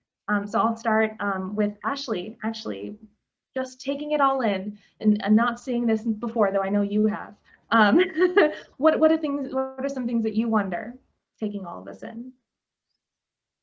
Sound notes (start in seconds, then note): 8.2 laughter